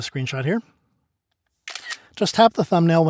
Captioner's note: camera snaps